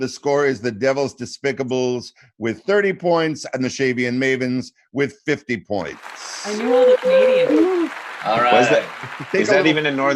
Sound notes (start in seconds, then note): 5.9 clapping